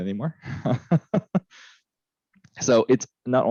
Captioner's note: laughs